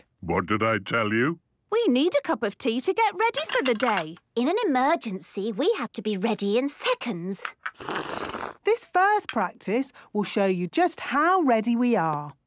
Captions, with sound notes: - What did I tell you! - We need a cup of tea to get ready for the day. - In an emergency, we have to be ready in seconds! - (slurping) - This first practice will show you just how ready we are!